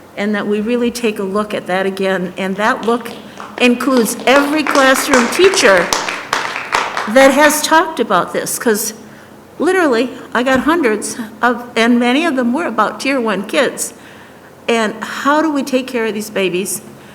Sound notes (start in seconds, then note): 4.9 applause